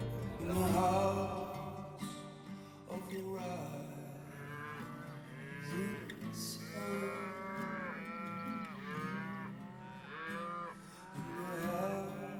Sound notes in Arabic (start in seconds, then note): 6.4 خوار الأبقار